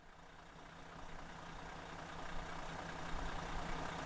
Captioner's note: vehicle engine idling